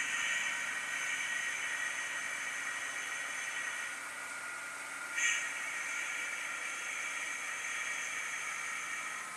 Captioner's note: air hissing noise